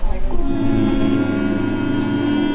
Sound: everyone hums

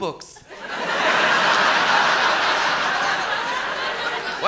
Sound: loud laughter

